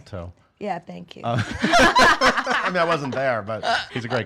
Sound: laughing

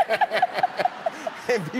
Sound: laughter

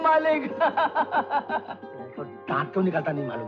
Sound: laughing

